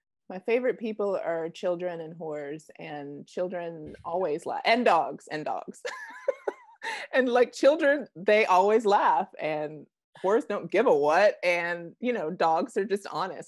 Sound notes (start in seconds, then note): 6.2 laughing